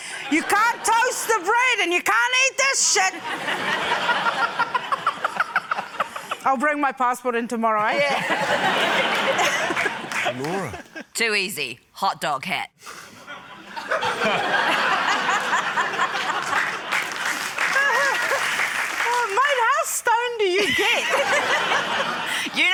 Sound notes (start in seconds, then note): 3.1 laughter; 7.9 laughter; 13.4 laughter, reluctant applause; 20.5 laughter